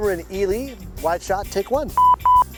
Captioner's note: signal beeps